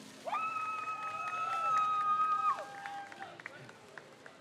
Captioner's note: crowd cheers